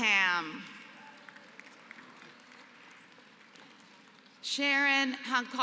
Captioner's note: applause